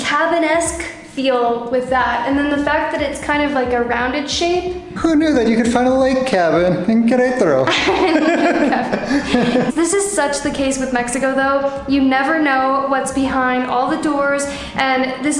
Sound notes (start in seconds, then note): 7.6 laughter